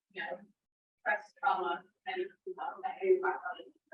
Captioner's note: speaks distortedly